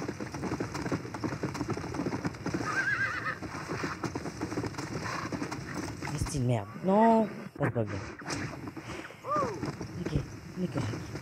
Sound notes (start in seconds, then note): 0.0 galloping horse; 2.6 screaming horse; 3.4 galloping horse; 9.2 greeting sounds